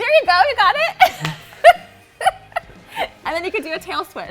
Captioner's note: laughs